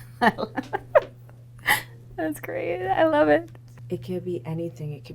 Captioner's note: laughs